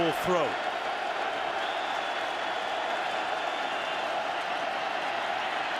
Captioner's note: cheering